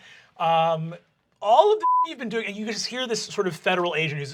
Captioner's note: beep